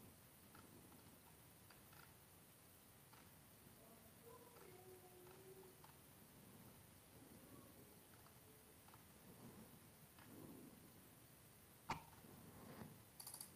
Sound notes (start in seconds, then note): none